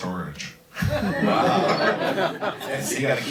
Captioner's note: crowd laughs